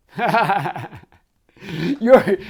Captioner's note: laughing